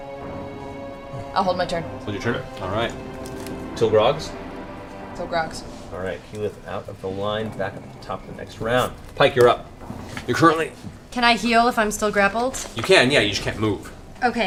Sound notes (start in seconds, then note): 11.0 grunts